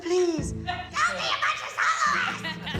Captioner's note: harshly; laughter